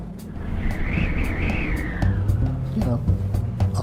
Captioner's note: wind whistling